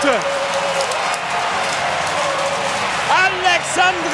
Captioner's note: applause